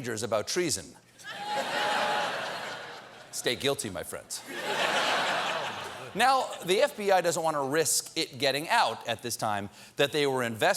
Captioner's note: laughter